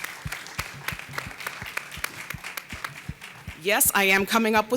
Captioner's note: audience applauding